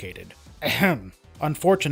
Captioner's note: ahem